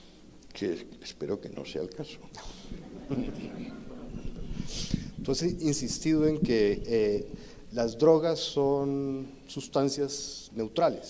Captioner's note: sarcasm and laughter